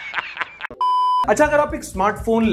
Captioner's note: laugh; beep